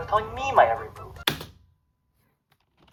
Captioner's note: click